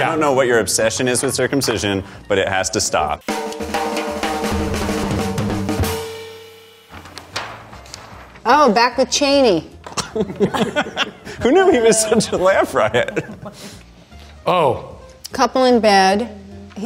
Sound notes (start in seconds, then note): 3.2 drum roll; 9.9 laughing